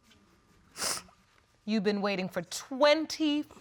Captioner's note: sniffles